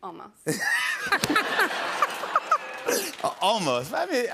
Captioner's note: laughter